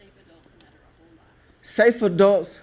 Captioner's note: audience member quietly talking